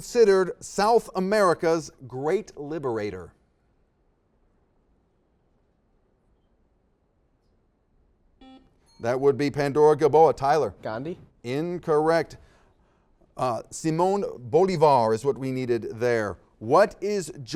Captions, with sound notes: Who is considered South America's great liberator? (silence) (beeps) - That would be Pandora-Gilboa. Tyler. - Gandhi? - Incorrect. Uh, Simone Bolivar is what we needed there.